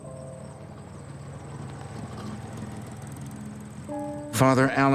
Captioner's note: car motor whirring